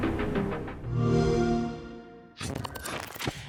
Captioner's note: xbox sound